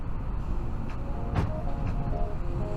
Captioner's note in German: dumpfes Geräusch